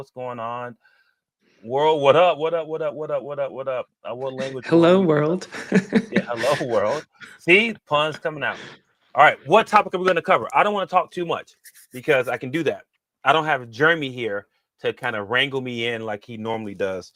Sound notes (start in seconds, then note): 5.6 chuckles